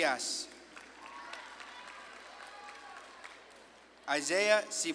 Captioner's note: audience claps and cheers